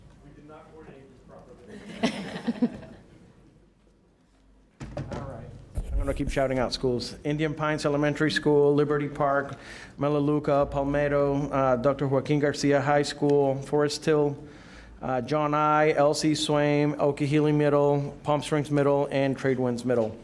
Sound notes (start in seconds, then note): 3.7 laughter